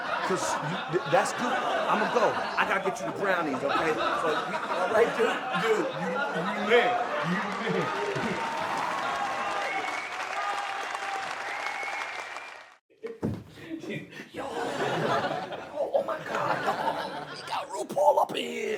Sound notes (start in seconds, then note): 7.1 audience applauds; 14.4 audience laughs